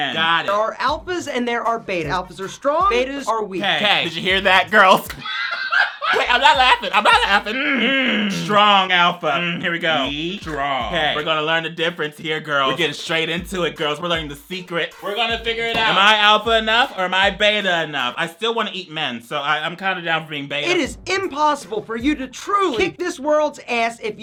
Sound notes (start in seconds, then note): 3.6 laughs; 7.7 clears throat